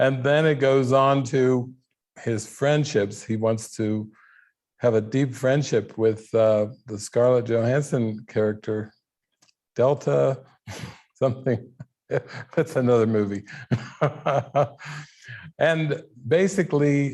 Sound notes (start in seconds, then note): 12.1 laughing